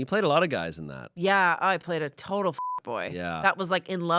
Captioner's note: beep